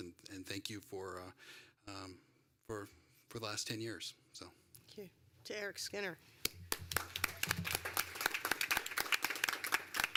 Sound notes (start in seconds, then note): 8.1 applause